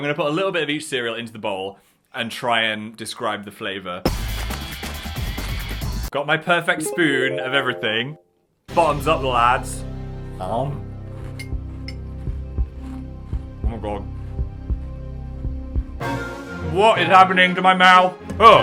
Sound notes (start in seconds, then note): 4.2 upbeat music; 11.6 spoon clinks in bowl